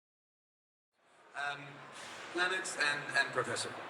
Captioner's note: faint crowd shattering